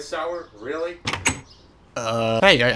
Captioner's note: minecraft_door_open.mp3